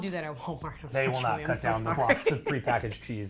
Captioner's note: laughs